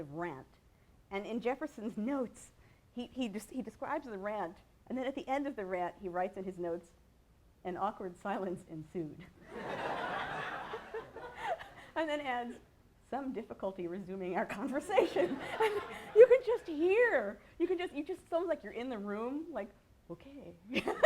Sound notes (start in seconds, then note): 9.4 laughter; 15.0 laughter